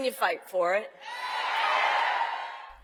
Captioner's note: cheering